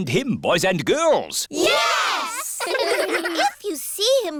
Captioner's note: giggling